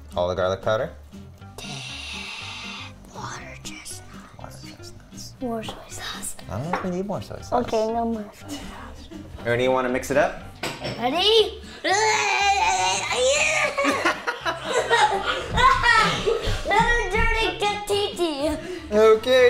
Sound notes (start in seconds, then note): 1.6 sighs; 11.8 yells; 13.1 laughs; 16.3 yelling